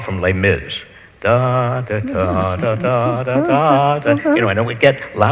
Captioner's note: Robert hums